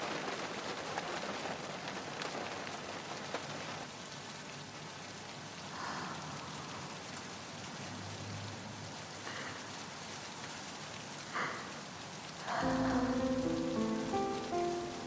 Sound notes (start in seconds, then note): 0.0 rain pattering; 11.3 crying